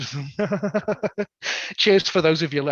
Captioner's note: laughs